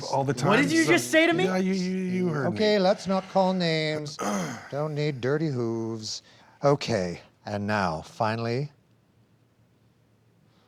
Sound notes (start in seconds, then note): 4.2 clears throat